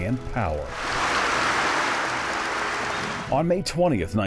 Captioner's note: crowd cheering